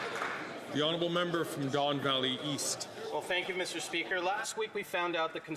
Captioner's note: some Applause